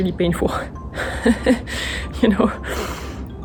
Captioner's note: laughs